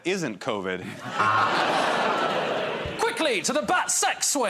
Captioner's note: laughter